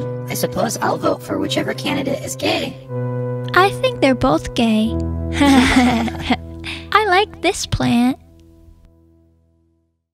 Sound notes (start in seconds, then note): 5.4 giggles